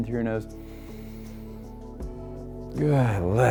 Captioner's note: inhales deeply